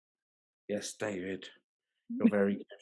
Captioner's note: laughing